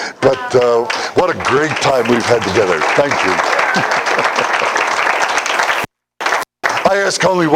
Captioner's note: Аплодисменты